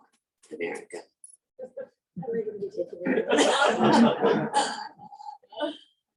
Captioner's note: laughing